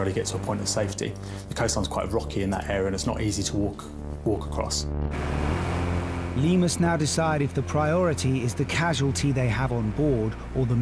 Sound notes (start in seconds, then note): 5.0 suspenseful music; 5.1 lifeboat engine whirring